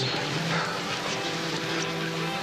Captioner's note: sighs